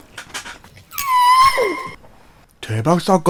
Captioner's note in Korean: 강아지 낑낑소리도 나오고~